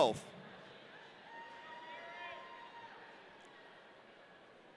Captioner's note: audience cheering